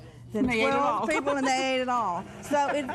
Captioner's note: laughs